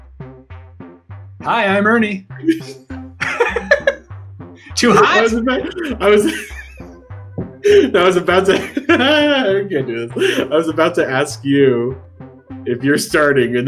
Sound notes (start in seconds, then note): 0.2 upbeat music; 3.2 laughing; 7.6 laughing